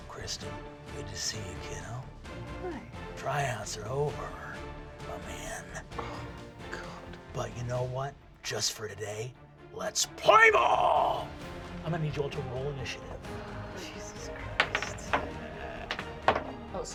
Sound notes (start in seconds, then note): 0.3 deep voice; 6.9 whispers; 7.7 deep voice; 9.9 shouting; 14.4 dice rolling